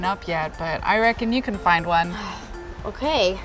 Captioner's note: sighs